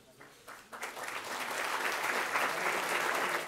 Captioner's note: applause